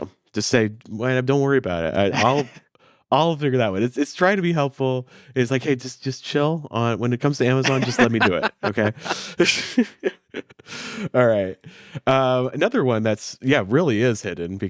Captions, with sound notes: So just say, "YNAB, don't worry about it. I'll figure that one." It's trying to be helpful. It's like, "Hey, just chill. When it comes to Amazon, just let me do it, okay?" (both chuckling) All right, another one that, yeah, really is hidden